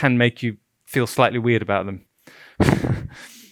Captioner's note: chuckles